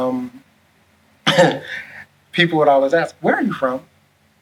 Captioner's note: laughs